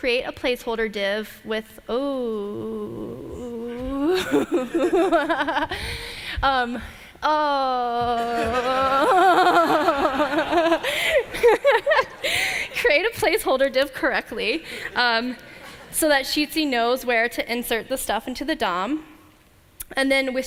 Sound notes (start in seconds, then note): 8.2 laughter